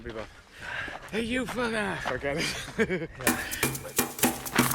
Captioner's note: laughs; echoing percussion